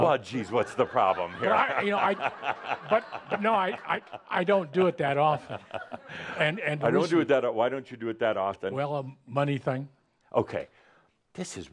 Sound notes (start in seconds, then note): 0.7 lots of laughter; 5.9 Adamus is chuckling